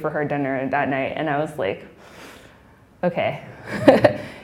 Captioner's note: inhaling; laughing